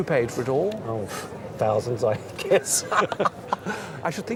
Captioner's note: laughs